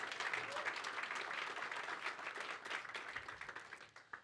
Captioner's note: applause